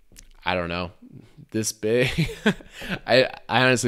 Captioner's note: laughs